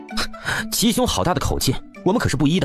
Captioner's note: breath